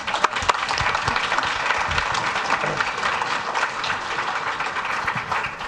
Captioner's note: audience applauds